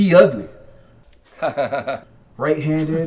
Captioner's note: Pagano laughs